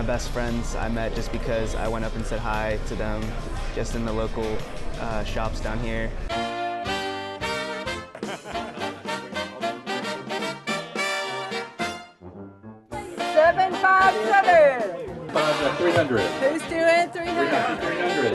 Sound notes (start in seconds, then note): 8.0 laughter